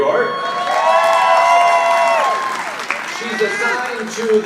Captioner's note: audience applauding